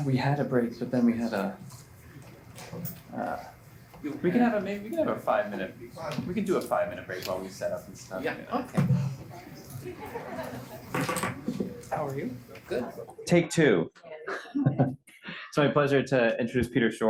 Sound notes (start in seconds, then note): 9.8 laughter